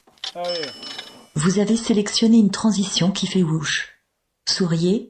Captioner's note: voiceover